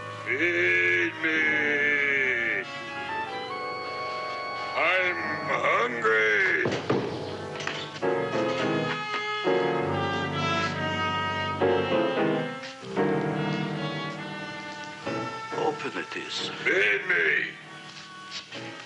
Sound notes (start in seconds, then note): 6.6 thudding; 9.4 dramatic music